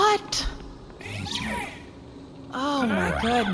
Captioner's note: C-53 sighs